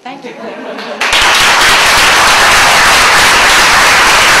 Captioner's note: applause